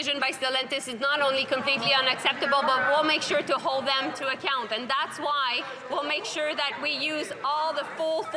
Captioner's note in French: voix de l'interprète